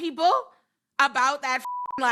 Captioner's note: beep